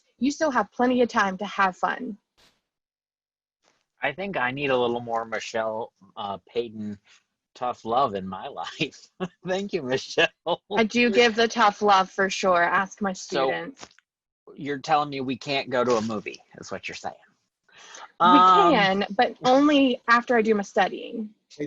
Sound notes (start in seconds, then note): 9.2 laughs